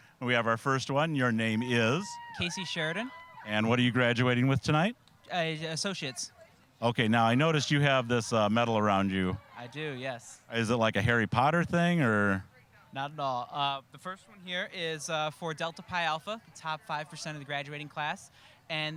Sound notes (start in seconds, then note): none